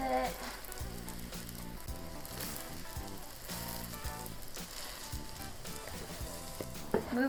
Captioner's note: sizzling